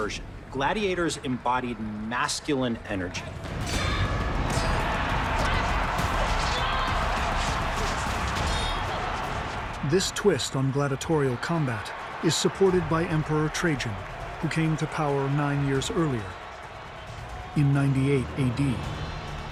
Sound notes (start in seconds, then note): 4.0 crowd cheering